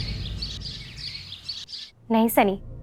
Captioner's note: birds chirping